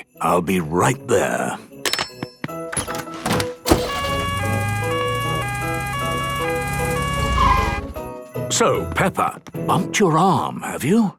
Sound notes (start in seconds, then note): 3.7 siren sounding